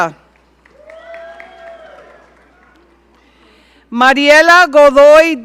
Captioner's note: audience cheering